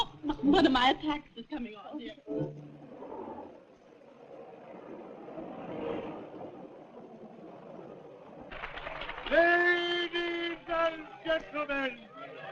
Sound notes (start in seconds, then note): 3.9 Traffic; 8.4 applause